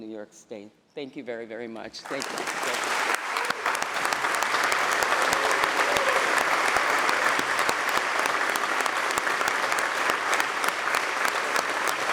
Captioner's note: applause